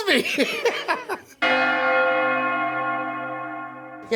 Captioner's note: bells Ringing